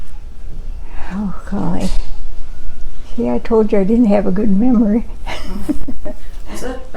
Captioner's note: chuckles